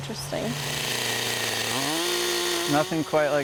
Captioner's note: chainsaw buzzing